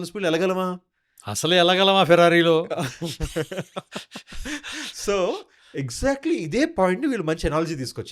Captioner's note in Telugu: నవ్వు